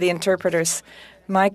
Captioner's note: speaking french